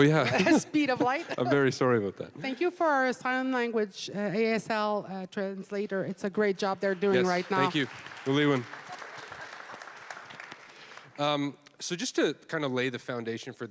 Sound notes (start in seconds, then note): 8.7 applause